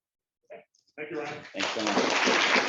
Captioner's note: applause